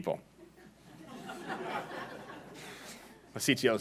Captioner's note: laughing